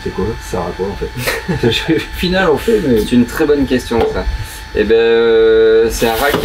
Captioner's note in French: rires